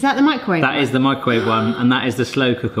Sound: gasps

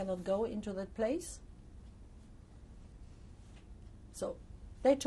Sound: pauses for 3 seconds

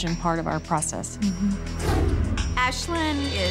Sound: whoosh

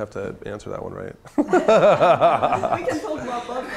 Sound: chuckling

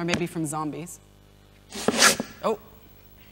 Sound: loud scratchy noise

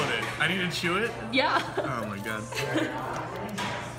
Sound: giggling in background

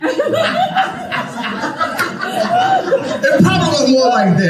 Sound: congregation laughing

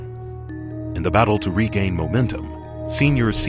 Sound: voiceover

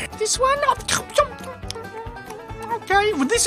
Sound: chewing noises

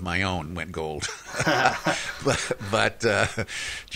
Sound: laughs

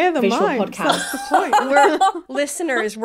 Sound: laughing

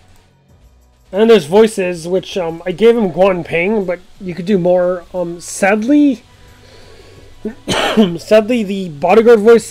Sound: cough

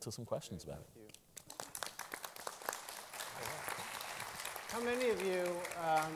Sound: applause

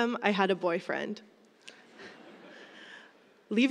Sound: laughter

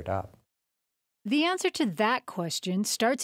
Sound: voiceover

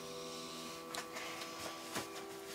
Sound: sighs

